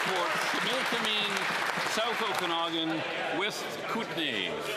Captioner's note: some Applause